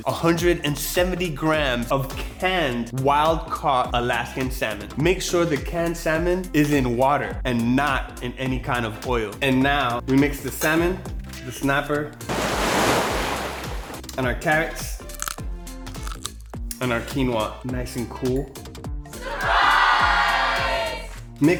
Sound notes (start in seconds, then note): 12.2 sound of waves crashing; 15.9 crunching sounds